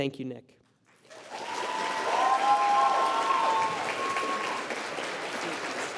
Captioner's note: applause